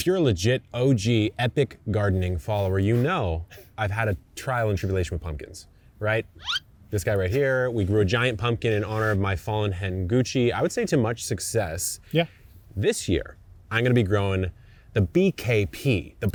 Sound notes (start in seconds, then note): 6.5 slide whistle whistling